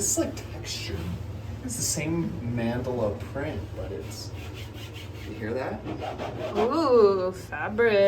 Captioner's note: scratchy noises